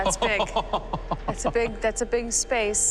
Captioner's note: laughing